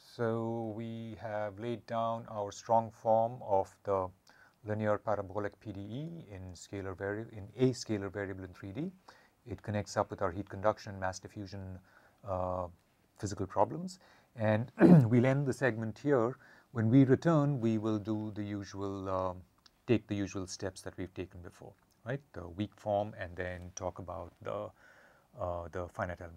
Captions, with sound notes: So, we have laid down our strong form of the linear parabolic PDE in scalar varia, in a scalar variable in 3D. It connects up with our heat conduction, mass diffusion. Physical problems and [COUGH] we'll end the segment here. When we return we will do the usual take the usual steps that we've taken before right? The weak form and then talk about the the finite element formulation.